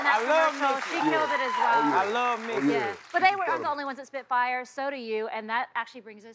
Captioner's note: cheers and applause